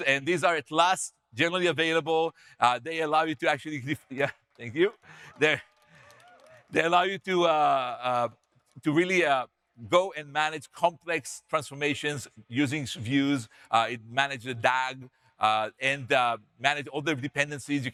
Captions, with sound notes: and these are at last generally available. They allow you to actually. Yeah, thank you. (audience members cheer) They allow you to really go and manage complex transformations using views, manage the DAG, and manage all the dependencies.